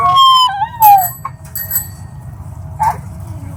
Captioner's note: bike bell rings